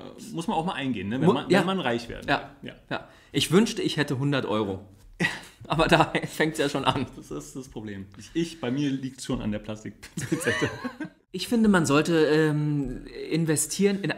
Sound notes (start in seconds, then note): 10.1 laughs